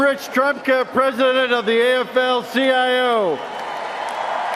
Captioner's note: cheers and applause